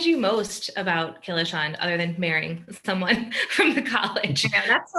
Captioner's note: laughing